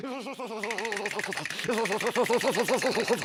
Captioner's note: teeth chattering